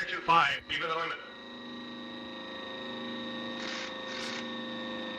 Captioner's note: machine whirring